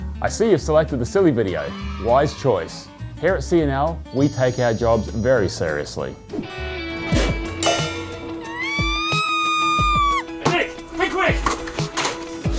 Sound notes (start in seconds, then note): 6.7 man spits; 8.5 woman screeching